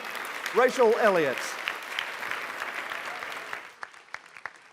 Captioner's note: applause